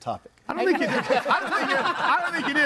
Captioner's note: group laughs